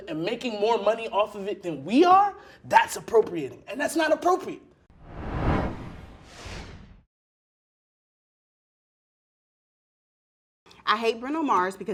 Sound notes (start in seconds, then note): 4.9 swooshing sound